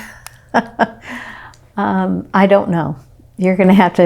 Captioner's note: laughs